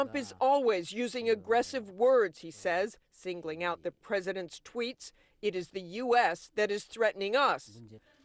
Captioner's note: speaking a foreign language